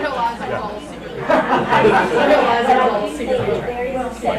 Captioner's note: chattering; laughing